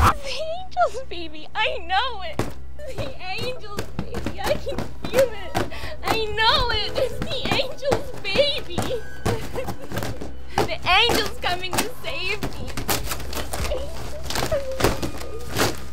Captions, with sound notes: - The angel's baby. I know it. (cardboard thuds) The angel's baby. (cardboard thuds) I knew it. (sobs) I know it. It's the angel's baby. (whimpers) The angel is coming to save me. The angel is coming (hand thudding) to save me.